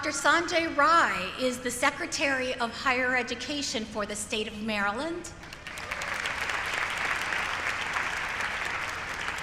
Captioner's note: applause